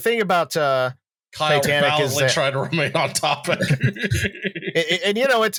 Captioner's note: laughs